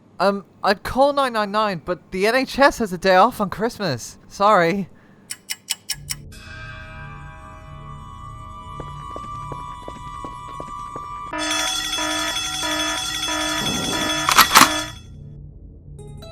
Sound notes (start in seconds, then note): 11.3 alarm bells ring; 13.6 shotgun reloading sound